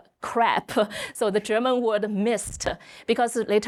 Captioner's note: speaking German